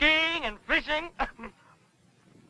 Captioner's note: laughs